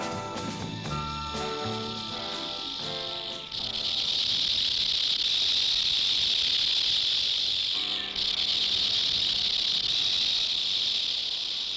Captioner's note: snake rattling